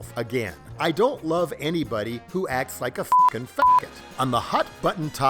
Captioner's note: beep